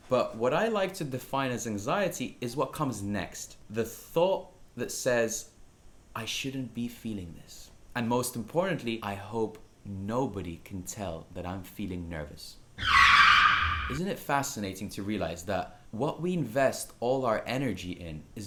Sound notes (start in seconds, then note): 12.8 screen screeches